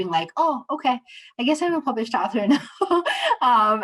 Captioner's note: laughter